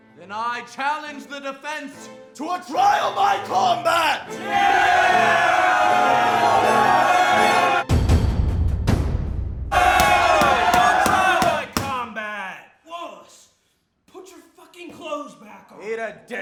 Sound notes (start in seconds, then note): 4.4 guys cheering; 7.8 dramatic drum beats; 9.7 guys cheering